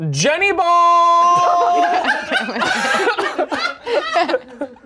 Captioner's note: everyone laughs